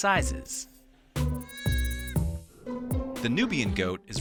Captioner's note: goat bleats